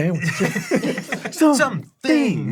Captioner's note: everyone laughs